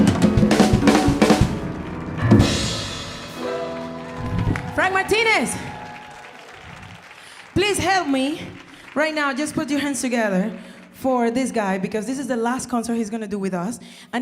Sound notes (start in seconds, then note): 3.3 audience applauding; 6.1 audience cheering